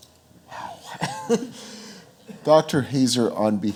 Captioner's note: chuckles